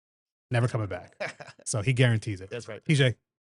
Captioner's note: laughs